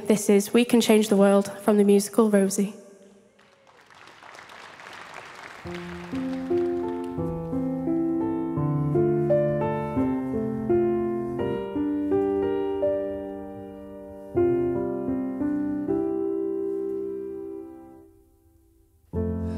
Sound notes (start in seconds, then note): 3.3 audience clapping; 5.5 gentle music